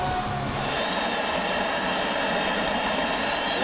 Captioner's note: rock music; crowd cheering